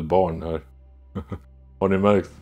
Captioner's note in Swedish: Skratt